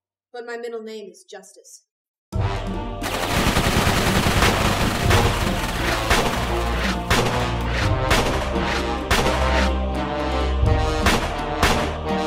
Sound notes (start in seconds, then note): 3.0 gunshots